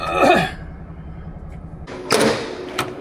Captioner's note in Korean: 목을 가다듬음